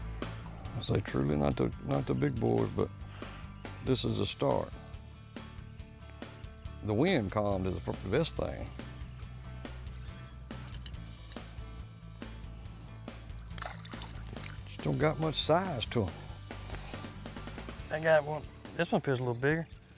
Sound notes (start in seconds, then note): 4.4 upbeat music; 8.2 upbeat music; 8.2 water splashes